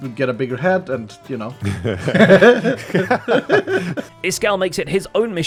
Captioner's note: laughs